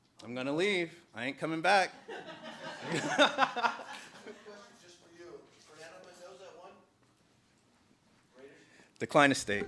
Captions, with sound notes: I'm going to leave. I ain't coming back. [LAUGHTER] Good question just for you. Fernando, my nose at one. Decline estate.